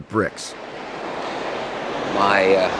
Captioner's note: ocean waves